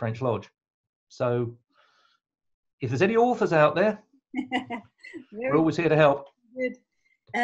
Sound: laughs

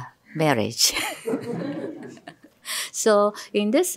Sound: laughter

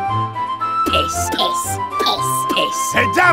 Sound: birds noises

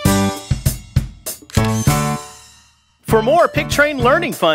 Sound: SFX: Camera Shutter

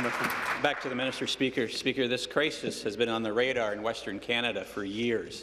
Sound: applause

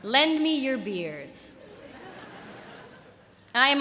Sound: laughter

